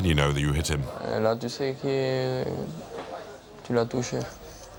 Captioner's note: French spoken audio